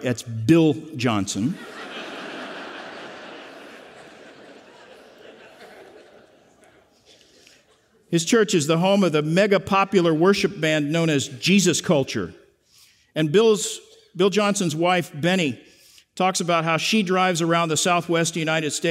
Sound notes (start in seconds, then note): 4.4 laughter